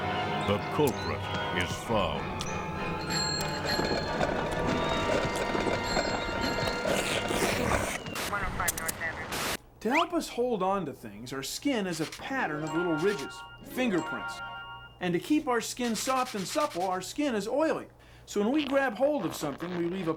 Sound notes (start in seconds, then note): 3.0 bell dings